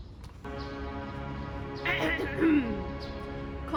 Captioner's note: more royal coughs